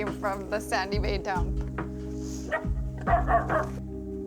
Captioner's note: barking